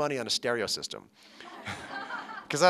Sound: laughter

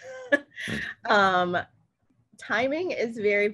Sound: laughs

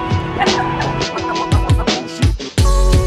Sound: woman laughing; somber hip hop

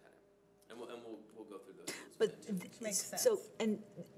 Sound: speaking faintly

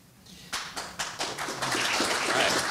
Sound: audience applauds

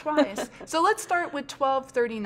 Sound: laughs

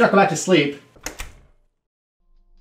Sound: door slam

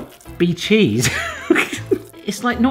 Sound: laughing

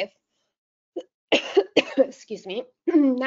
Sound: coughing

